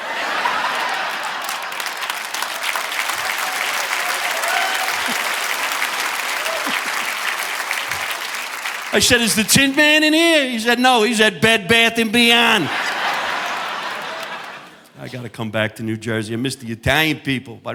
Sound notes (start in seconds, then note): 0.0 audience laughing; 3.8 audience applauding; 6.6 chuckles; 12.0 audience laughing